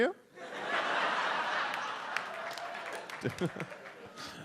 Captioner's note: audience laughs